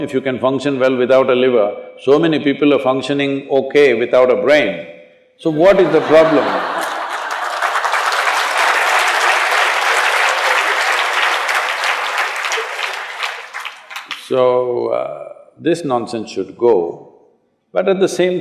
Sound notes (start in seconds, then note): 10.0 laughter/Applause